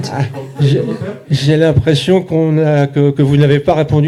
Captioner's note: speaking in French